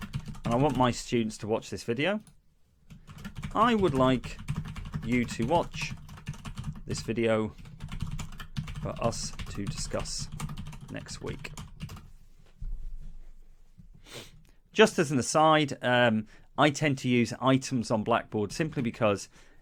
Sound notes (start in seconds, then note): 0.0 sound of a computer keyboard being used; 2.9 the sound of typing